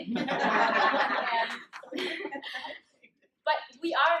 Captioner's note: audience laughs